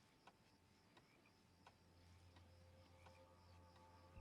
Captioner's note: none